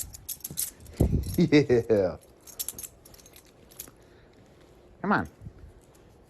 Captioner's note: Ella giggles